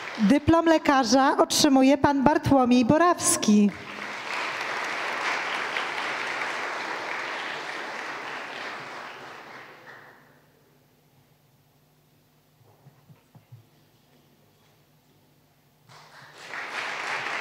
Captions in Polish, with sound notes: Dyplom lekarza otrzymuje Pan Bartłomiej Borawski. [oklaski]